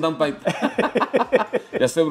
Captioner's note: laughter